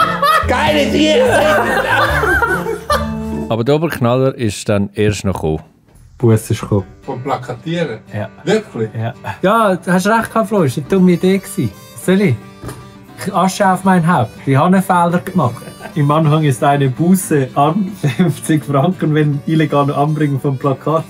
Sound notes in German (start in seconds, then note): 1.1 Gelächter